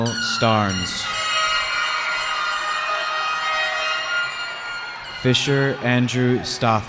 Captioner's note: cheering